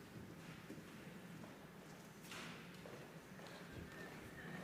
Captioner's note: footsteps tapping